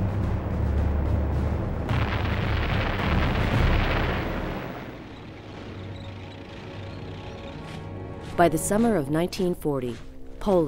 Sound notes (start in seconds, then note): 1.8 bombs exploding; 2.5 tank running